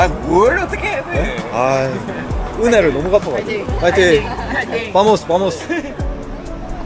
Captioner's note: the kids cheering for me adorably lol